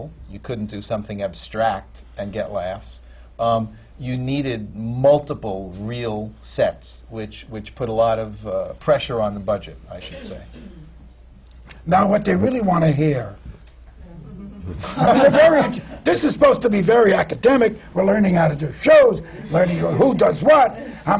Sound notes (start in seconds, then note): 14.2 laughter